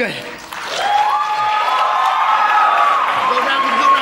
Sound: crowd cheers

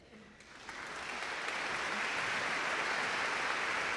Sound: audience clapping

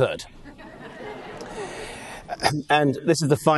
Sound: audience laughing

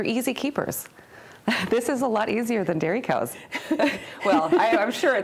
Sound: laughing; laughs

